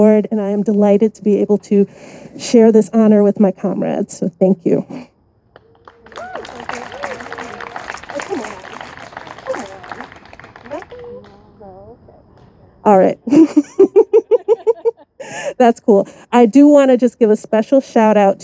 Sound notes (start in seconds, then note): 5.5 audience applauding and cheering; 13.0 laughs